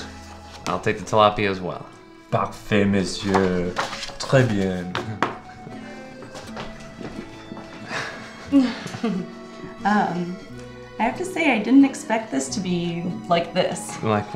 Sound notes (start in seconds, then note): 7.8 giggling